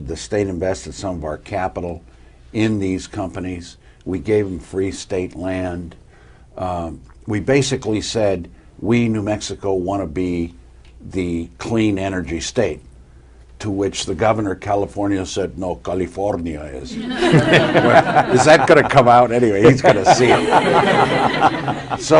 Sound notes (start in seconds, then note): 16.9 laughter